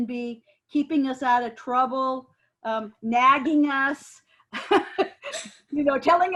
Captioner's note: laughs